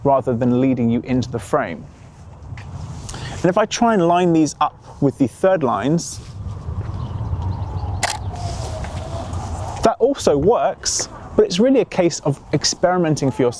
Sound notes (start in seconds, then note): 8.0 snapping